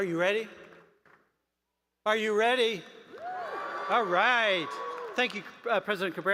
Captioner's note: applause